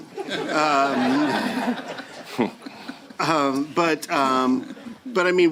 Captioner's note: laughter